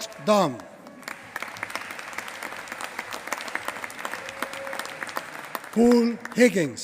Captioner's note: applause